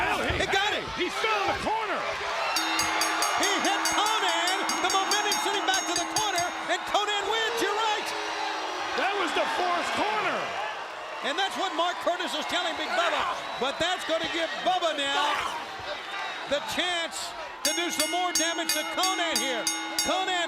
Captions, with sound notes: BUBBA, HE NAILED HIM. >> HE GOT IT. >> HE FELL IN THE CORNER. >> [CROWD CHEERING] >> [BELL RINGING] >> HE HIT KONNAN, THE MOMENTUM SENT HIM BACK TO THE CORNER AND KONNAN WINS, YOU'RE RIGHT. >> THAT WAS THE FOURTH CORNER. >> AND THAT'S WHAT MARK CURTIS IS TELLING BIG BUBBA, BUT THAT'S GONNA GIVE BUBBA NOW THE CHANCE TO DO SOME MORE DAMAGE TO KONNAN HERE.